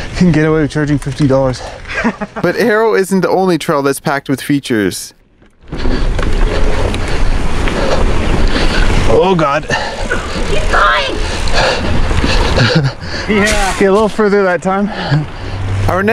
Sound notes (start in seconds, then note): 1.8 laughs